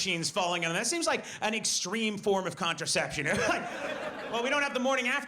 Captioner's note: laughs